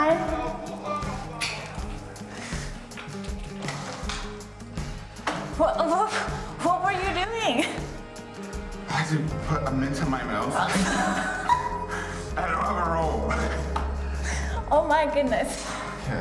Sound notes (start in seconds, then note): 5.5 stammering; 10.6 laughs